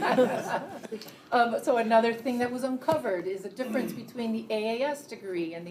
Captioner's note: laughter